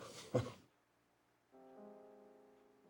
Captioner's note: chuckles